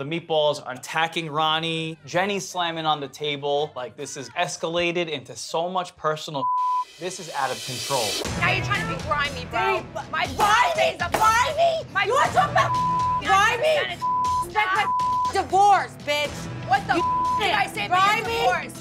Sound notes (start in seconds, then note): 6.4 beep; 11.0 hand slamming; 13.9 beep